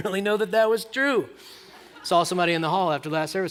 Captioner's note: laughter